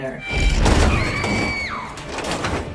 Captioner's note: scream